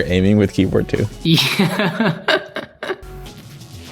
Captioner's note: laughs